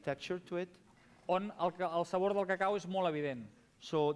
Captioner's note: non-english speech